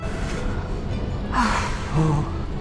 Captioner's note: sigh